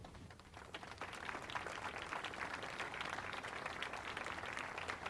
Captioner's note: audience applauds